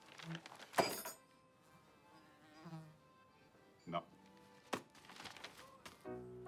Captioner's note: fly buzzing